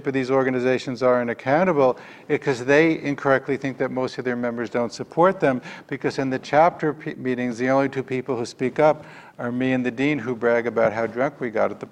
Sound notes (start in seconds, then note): none